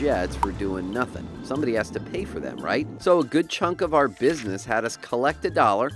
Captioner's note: plane taking off